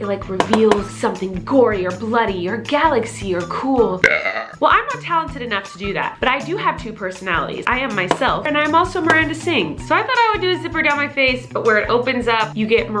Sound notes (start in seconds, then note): 4.0 belches